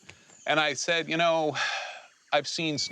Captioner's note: sighs